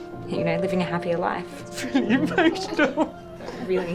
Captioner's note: tearfully